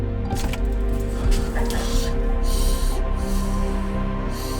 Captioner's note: Spencer sighs; tense music